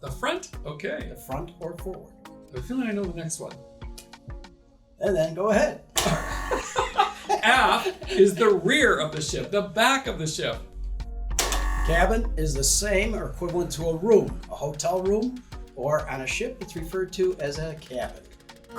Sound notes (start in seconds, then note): 6.4 laughter